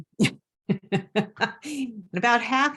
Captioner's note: laughs